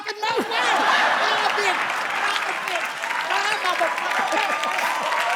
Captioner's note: audience cheers